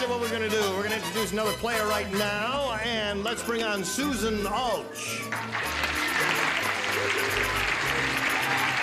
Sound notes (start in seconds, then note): 2.6 applause; 5.2 cheers and applause